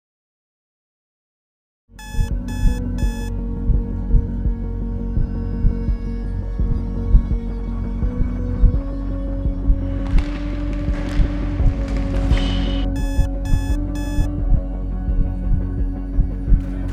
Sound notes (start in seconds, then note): 2.0 alarm beeping; 3.4 dramatic music; 9.8 hockey sticks slapping ice; 12.7 alarm beeping; 14.1 dramatic music